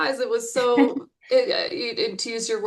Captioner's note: chuckles